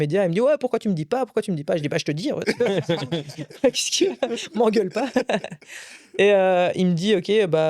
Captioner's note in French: rires